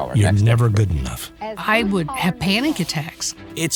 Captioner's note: pat